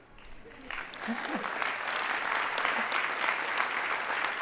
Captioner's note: audience applauding